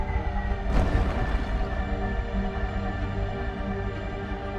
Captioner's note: ship thuds